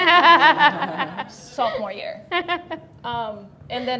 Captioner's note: everybody laughing; laughing